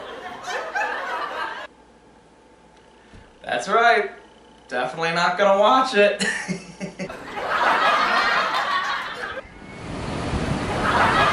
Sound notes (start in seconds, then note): 6.2 chuckling; 6.9 audience laughing